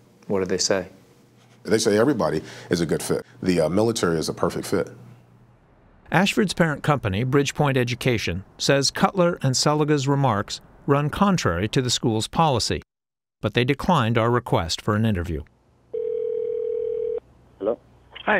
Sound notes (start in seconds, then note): 6.5 voice-over